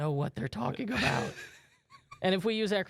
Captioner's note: laughs